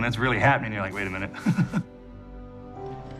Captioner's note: laughing